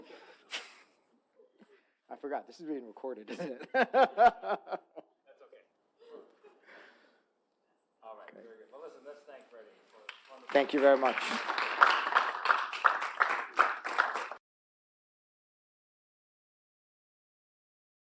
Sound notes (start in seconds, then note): 0.1 audience chuckling; 0.4 chuckles; 3.3 laughs; 12.7 audience clapping